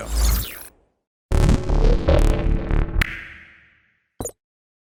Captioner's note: glitchy sound effects